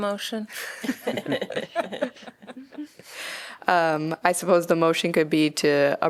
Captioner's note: laughter